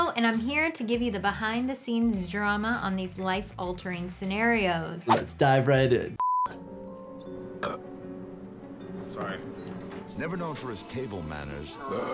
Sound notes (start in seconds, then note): 6.6 mysterious music; 7.6 man belching; 11.9 man belching